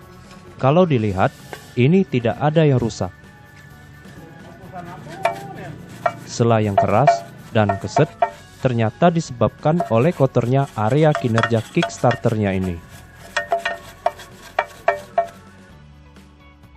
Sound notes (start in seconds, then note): 5.8 crank is loud